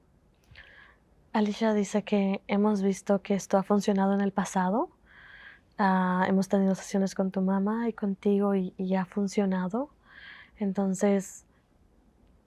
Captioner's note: Spanish